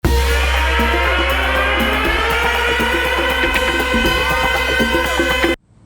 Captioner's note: sirens